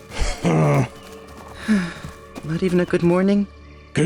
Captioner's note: sighs